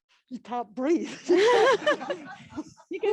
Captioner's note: laughter